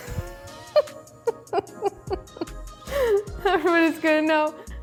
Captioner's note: laughing